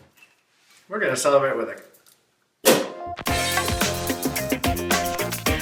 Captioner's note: pop